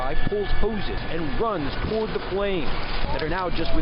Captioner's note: crackling